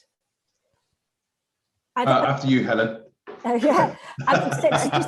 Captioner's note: laughing